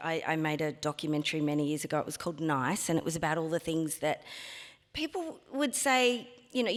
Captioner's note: none